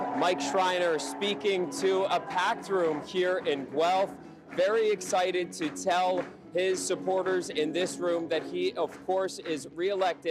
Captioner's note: applause